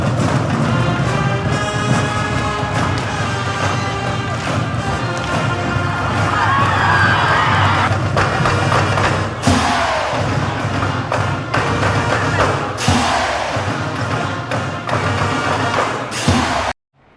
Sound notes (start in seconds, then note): 0.7 parade music; 6.7 cheering